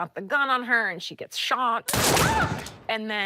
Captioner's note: gunshot